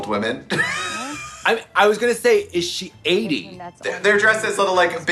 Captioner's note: laughing